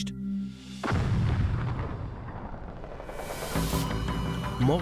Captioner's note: large explosion